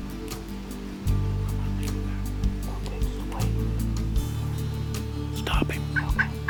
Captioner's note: whispering